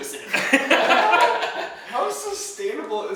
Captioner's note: laughing